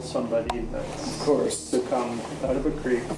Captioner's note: voiceover